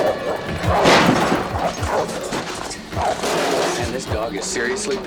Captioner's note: barking continues